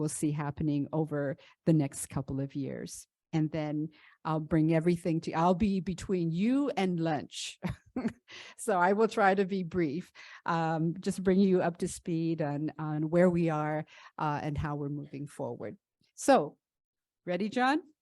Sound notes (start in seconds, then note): 7.6 laughter